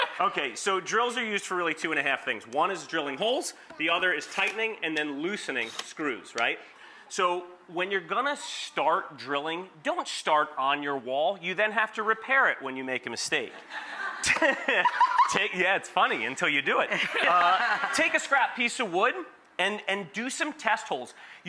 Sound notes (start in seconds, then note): 13.6 audience laughs; 13.6 laughs; 16.9 laughs